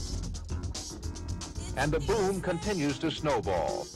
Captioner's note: man over TV